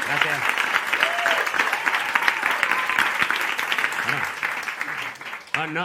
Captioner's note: applause